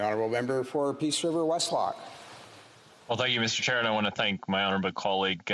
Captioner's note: speaking French